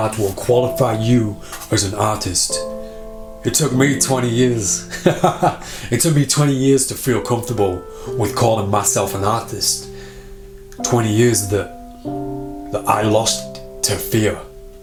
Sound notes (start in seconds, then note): 4.9 laughs